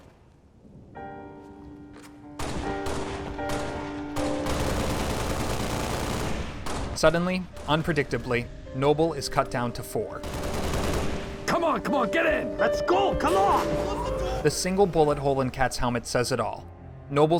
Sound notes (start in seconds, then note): 0.4 somber music; 2.4 gun fire